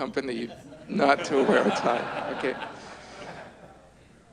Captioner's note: audience laughs